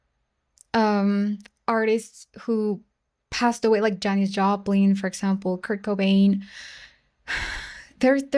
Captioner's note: sighs and gasps